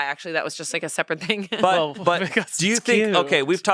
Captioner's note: laughs